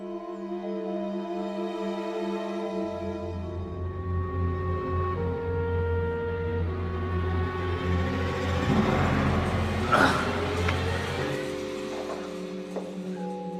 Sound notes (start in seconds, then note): 8.6 groaning